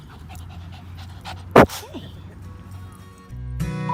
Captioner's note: dog barks; upbeat acoustic music